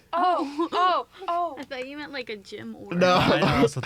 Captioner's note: laughing